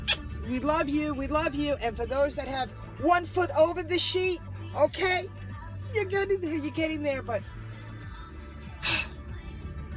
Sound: kiss; deep breathe

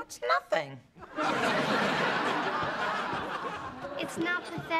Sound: laughter

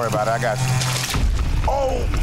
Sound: water splashing

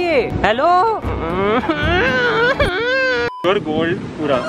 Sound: starts crying like a car

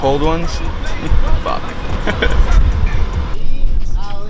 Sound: chuckles

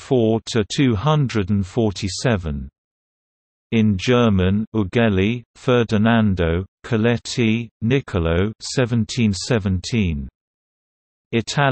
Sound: in German

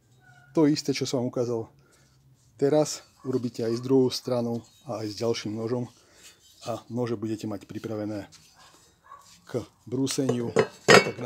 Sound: sharpening

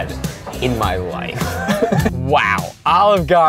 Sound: laughs

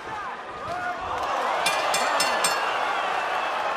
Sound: bell rings

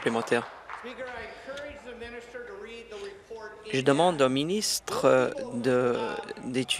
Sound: applause

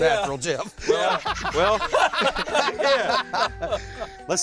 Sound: laughter

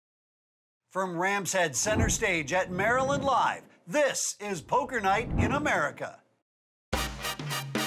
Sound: voiceover

